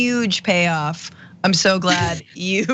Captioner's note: laugh